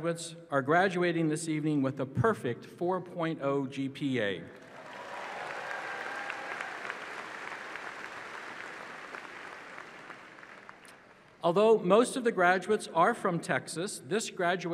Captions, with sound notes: And 27 of our graduates are graduating this evening with a perfect 4.0 GPA. [ Applause ]